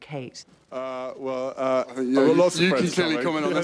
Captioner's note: stammers